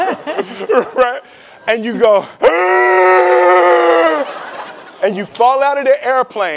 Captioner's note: laughing; inhaling